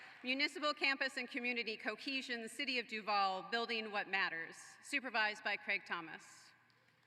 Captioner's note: applause